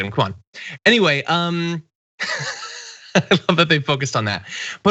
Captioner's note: laugh